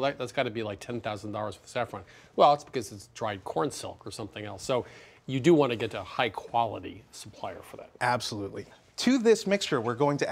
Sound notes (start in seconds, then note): none